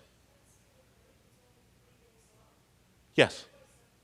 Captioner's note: person speaking off mic